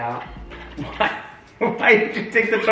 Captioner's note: laughs